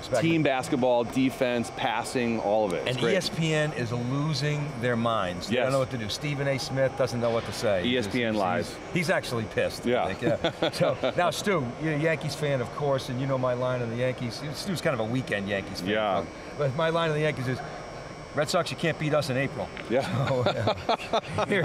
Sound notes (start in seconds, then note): 10.2 laughter; 20.0 laughs